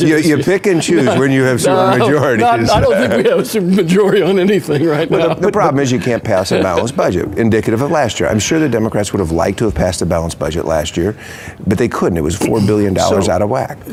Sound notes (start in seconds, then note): 3.5 laughing